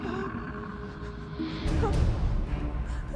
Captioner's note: animal chittering, growling; both whimpering